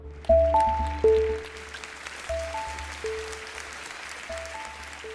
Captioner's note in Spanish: Aplausos